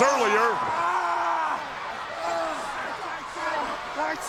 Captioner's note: wrestler yelling